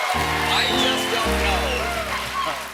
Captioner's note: cheers and applause; piano riff